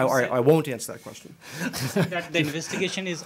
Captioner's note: laughter